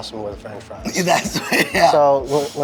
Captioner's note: laughs